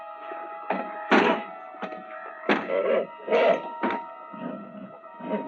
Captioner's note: horse whining; door thudding